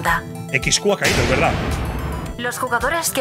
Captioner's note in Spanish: Estruendo